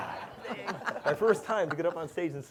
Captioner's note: laughter